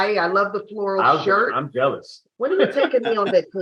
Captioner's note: laughs